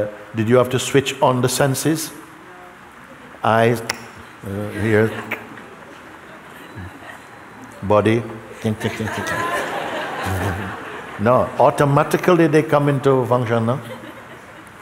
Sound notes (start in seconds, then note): 4.6 click; 8.8 laughter